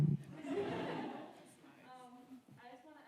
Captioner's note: audience laughing